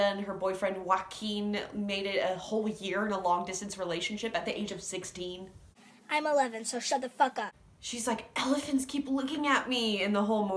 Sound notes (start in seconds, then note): none